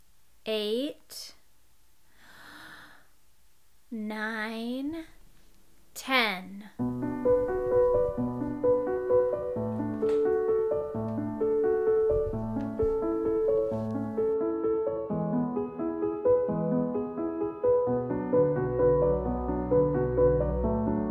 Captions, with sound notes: Eight. (deep breath) Nine. Ten. (soft piano music plays)